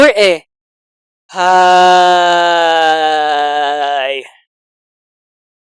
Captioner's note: sigh